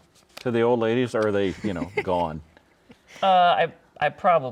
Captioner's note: laughing